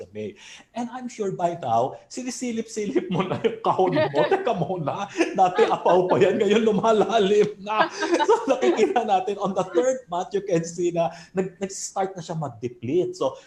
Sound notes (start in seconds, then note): 8.2 laughs